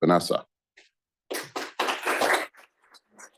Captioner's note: applause